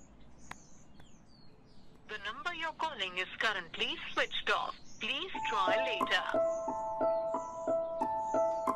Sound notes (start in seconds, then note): 2.1 dialer busy tone